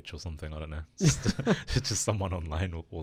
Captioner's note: laughing